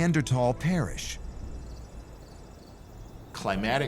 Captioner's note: crickets chirping